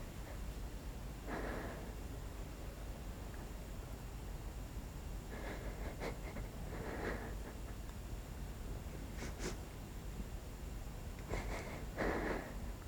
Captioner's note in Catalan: S'escolta plorar a Lisa